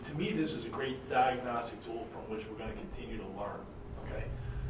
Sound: none

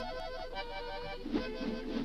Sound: rope whooshes

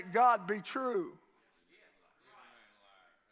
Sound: congregation shouts agreement

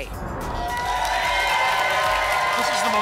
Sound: applause and cheering

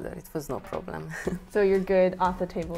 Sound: laughs

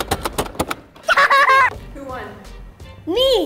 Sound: laughs

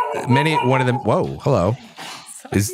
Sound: dog barks

